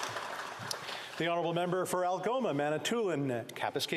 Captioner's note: applause